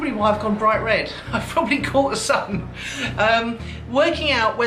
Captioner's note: laughs